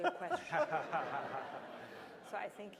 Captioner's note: laughter